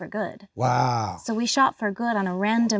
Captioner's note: laughs